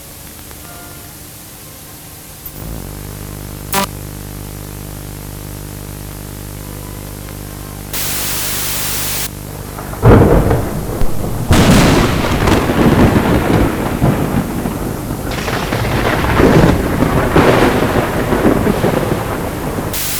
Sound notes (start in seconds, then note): 7.9 static; 9.7 lighting and Thunder